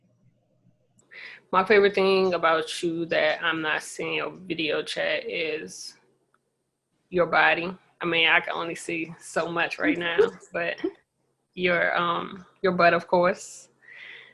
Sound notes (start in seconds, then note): 9.9 chuckles